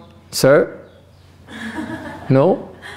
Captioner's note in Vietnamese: laughter